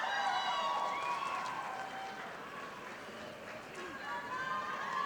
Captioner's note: audience applauding